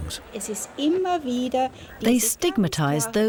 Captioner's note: speaking german